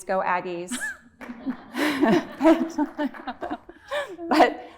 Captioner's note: laughter